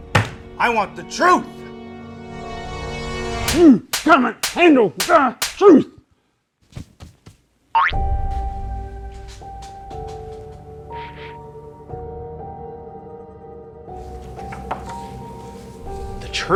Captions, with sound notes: (thud) - I want the truth! - (slapping) You can't handle the truth! (boink) (suspenseful music)